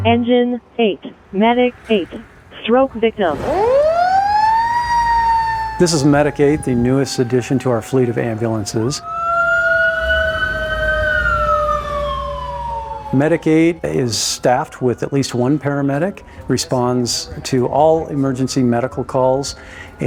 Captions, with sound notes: - Engine eight, medic eight, stroke victim. - This is Medic eight. The newest addition to our fleet of ambulances. (sirens sound) Medic eight is staffed with at least one paramedic, responds to all emergency medical calls,